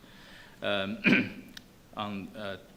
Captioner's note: clearing throat